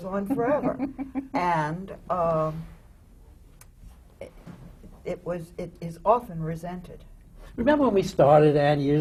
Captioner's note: laughs